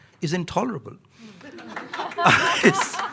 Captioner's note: audience applauding; audience laughing